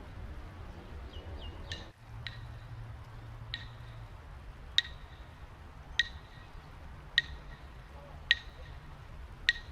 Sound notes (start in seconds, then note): 4.9 claps sticks